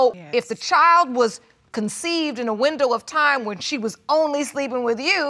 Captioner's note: none